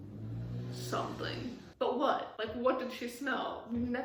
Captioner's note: motorcycle revving in the background